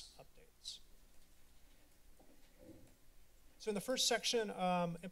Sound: silence

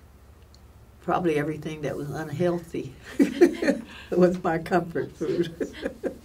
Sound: laughs

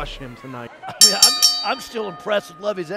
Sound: bell rings

